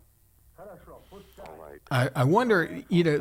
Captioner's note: soldier speaking Russian